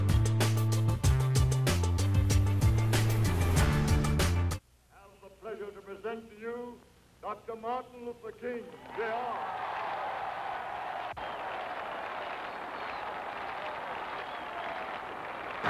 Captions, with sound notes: I have the pleasure to present to you, Dr. Martin Luther King Jr. [crowd cheering]